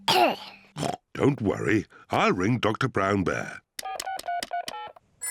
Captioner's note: coughs; oinks; beeping